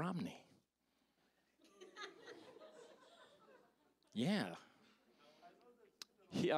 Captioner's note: audience laughing